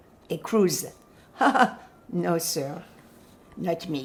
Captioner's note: laughing